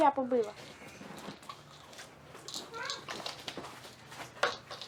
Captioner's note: pills rattling